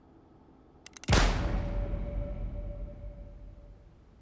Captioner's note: gun shot firing